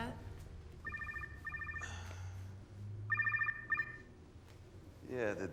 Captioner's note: phone ringing